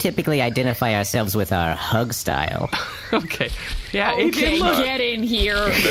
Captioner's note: laughs